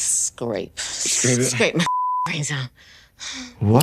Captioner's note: beep